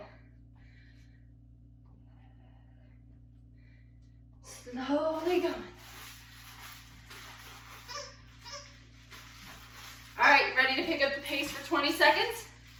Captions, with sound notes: Slowly going. (toy squeaks) All right, ready to pick up the pace for 20 seconds?